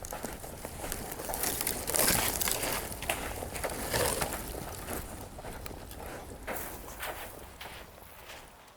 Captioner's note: branches Rustling Noise